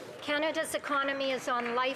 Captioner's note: applause